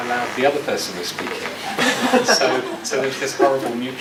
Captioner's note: audience laughs